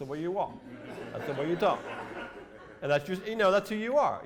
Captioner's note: laughter